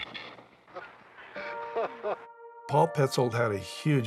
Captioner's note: laughs